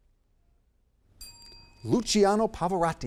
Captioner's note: bell ringing